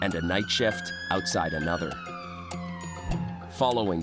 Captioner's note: siren wailing